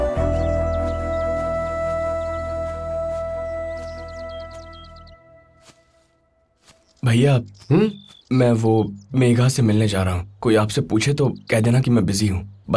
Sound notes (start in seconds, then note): 3.9 birds chirping